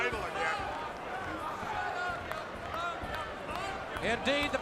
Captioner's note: crowd chatter